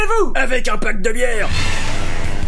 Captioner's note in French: Impact